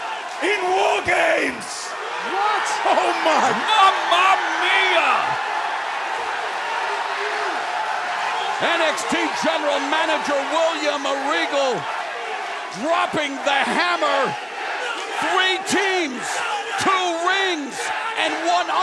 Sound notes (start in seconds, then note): 6.3 crowd cheering